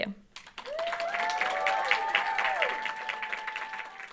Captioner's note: crowd cheering loudly